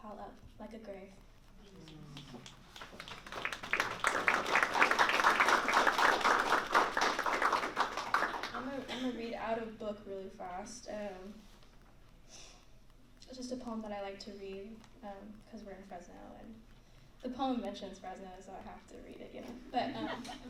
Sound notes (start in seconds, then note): 1.8 applause